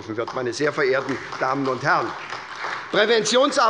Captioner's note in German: Beifall bei der SPD und bei Abgeordneten der CDU